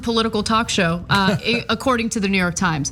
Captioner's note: laugh